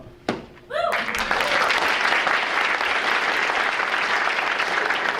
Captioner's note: audience applauding